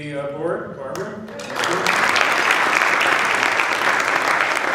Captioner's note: applause